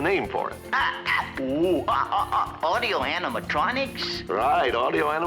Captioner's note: squawks